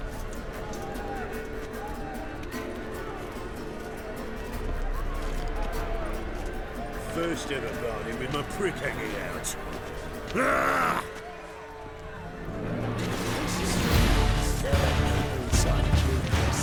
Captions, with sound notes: First ever barney with my prick hangin' out. [growl]